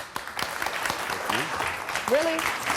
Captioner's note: audience clapping